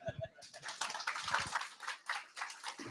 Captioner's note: applause